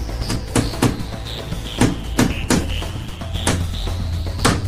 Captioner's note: hammering